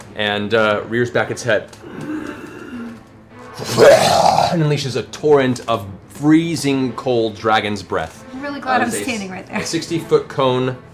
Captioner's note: snarling roar